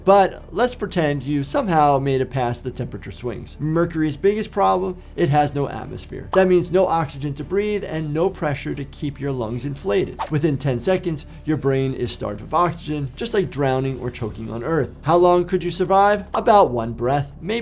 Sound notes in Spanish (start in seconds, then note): 10.2 transición silbante